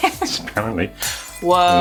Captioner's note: glass breaking